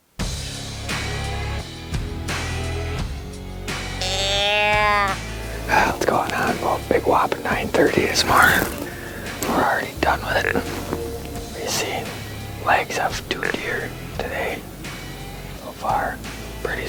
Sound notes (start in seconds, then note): 0.3 energetic music; 3.9 deer calling